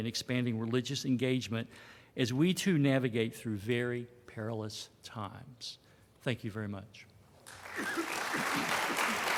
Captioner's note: applause